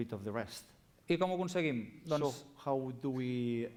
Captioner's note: non-english speech